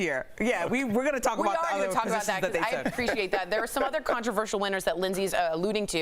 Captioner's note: laughter